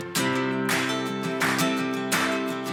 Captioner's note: upbeat folksy music rises; hands clap to music beat